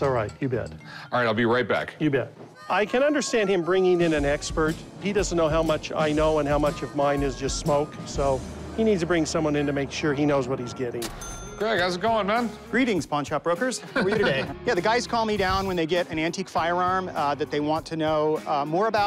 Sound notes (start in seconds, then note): 10.3 ka-ching; 13.8 laughs